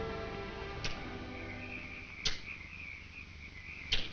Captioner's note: insects chirp